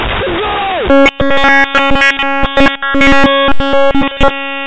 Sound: beep

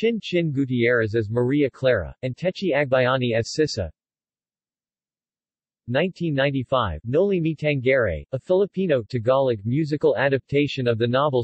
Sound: Tagalog

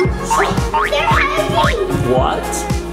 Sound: xylophone rings; spring bouncing

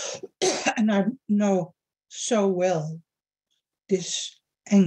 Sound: coughs

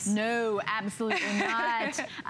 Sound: laughter

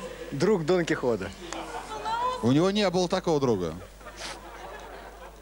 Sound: laughter

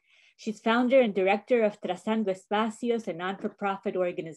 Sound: speaking spanish

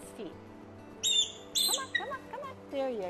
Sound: eagle squeaking

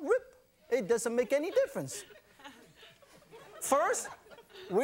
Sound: audience laughs

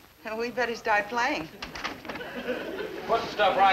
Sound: door opens

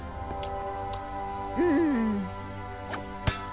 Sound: chuckles

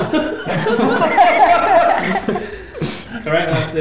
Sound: laughter

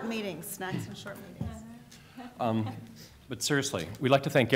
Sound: laughter

